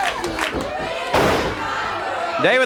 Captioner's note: body thuds